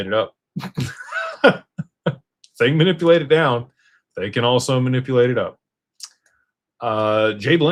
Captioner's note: laughter